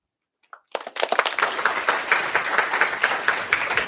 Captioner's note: applause